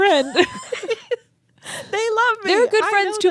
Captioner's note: both laughing